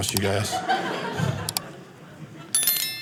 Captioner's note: audience laughing